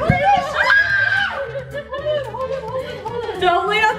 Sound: screams

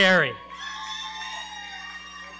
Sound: audience cheering

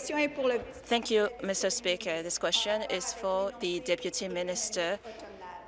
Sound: speaking in French

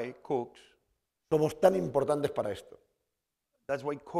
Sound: speaking spanish

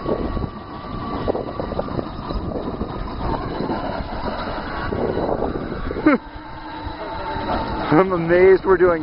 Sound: robot motor noise

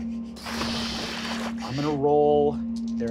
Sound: splashing

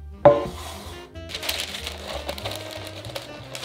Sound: paper rustling

